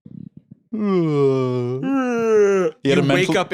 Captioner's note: both fake-yawning